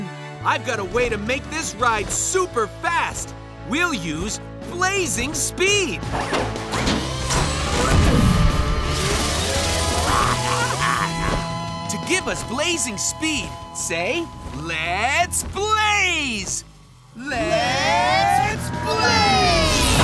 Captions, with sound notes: I've got a way to make this ride super fast. We'll use Blazing Speed. [grunting] To give us Blazing Speed, say, "Let's Blaze!" Let's Blaze!